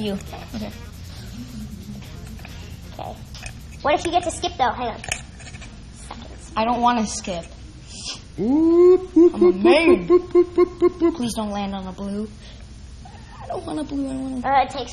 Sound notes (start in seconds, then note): 9.8 beeps